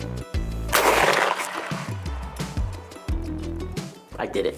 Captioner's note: rifle bangs